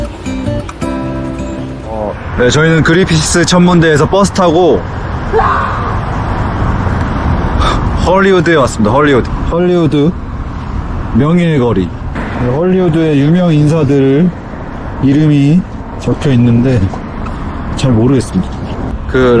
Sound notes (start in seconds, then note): 5.2 scream